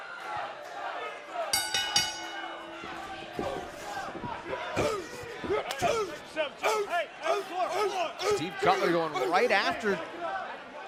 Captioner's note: bell ringing